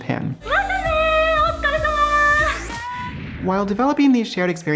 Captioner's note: speaking in Japanese